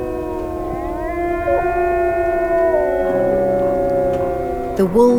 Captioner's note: wolves howling